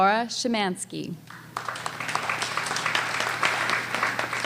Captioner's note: applause